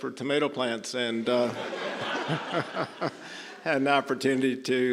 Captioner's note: audience laughing